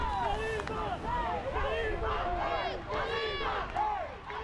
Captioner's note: fans chanting